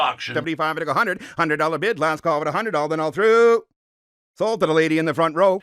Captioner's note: auctioneer speaking rapidly